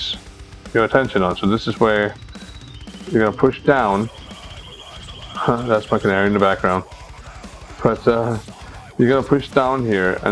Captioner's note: bird chirping